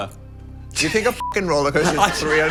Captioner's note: beep